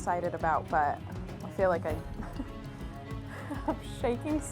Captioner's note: laughs